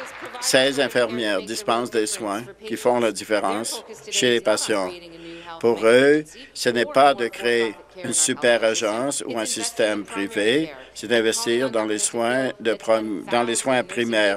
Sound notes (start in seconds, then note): 1.6 applause